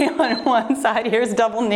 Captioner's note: timer beeps